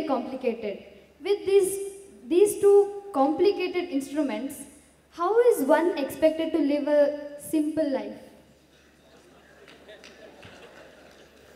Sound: few Laugh

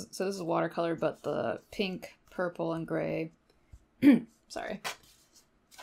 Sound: clears throat

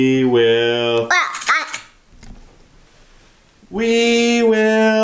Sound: babbling

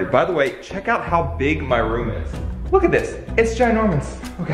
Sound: none

